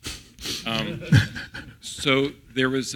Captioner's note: laugh